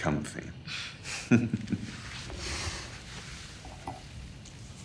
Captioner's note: both chuckle